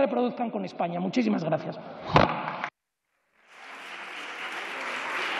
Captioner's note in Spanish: Aplausos